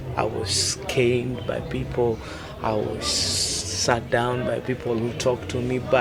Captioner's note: none